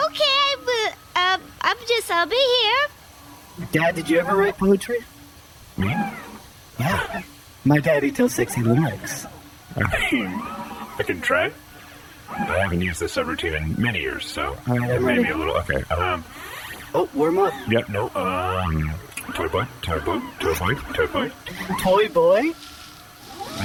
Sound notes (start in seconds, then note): 9.7 laughing; 16.3 deep breath; 22.2 laughing